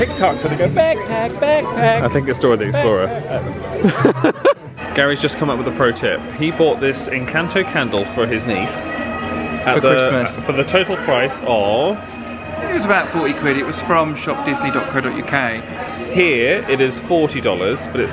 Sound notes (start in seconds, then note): 3.8 laughs